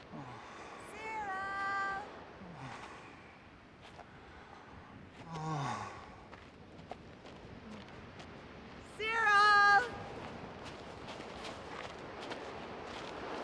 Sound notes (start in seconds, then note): none